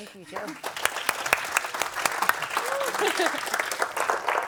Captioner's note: audience applauds